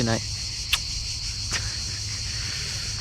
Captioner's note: Carmine makes a kissing sound, then laughs